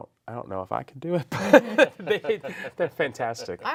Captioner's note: group laughs